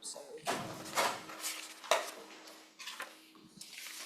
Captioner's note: papers rustle